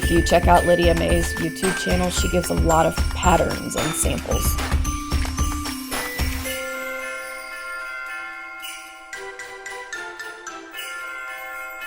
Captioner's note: sleigh bells